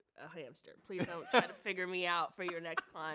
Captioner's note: laughs